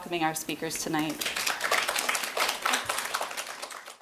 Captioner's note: applause